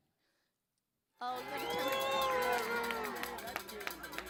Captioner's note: crowd cheering